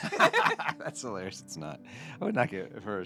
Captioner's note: laughing